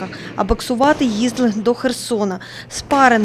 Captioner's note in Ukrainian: удари по боксерським лапам